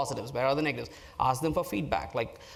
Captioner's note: none